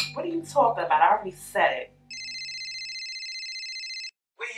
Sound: cellphone ringing

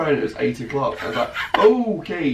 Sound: laughing

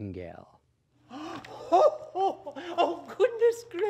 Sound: laughs

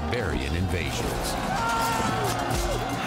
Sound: screams

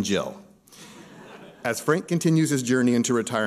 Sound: laughter

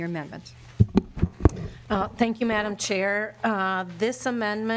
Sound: gavel

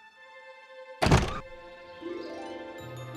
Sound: birds chirp

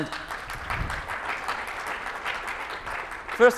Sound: applause

